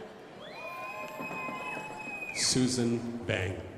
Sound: crowd applauding

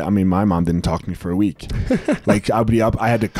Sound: chuckles

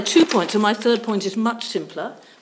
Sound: pages rustling

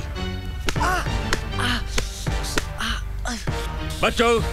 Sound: groans

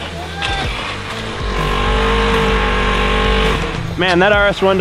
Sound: engine roaring; laughs

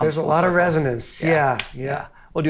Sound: hand slapping

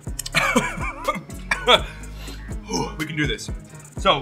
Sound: laughs

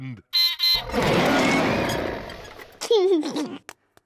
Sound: beeps and roars; laughs

